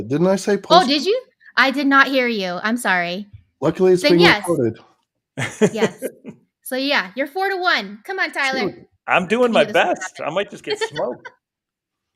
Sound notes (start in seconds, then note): 0.0 laughing; 5.4 laughing